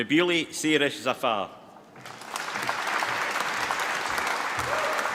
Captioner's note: applause